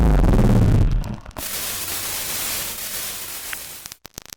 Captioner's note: feedback and distortion